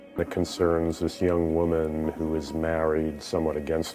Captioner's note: voiceover